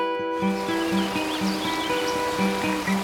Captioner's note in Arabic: العصافير يغنون